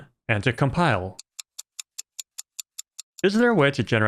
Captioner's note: ticking sound